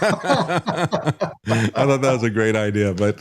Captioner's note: laughing